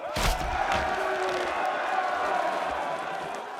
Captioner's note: cheering continues